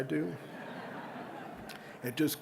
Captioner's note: audience laughing